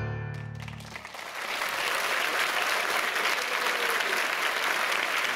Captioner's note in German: Applaus